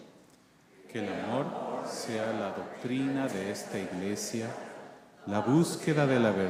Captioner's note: congregation reciting Aspiration in Spanish